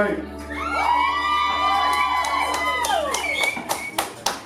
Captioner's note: applause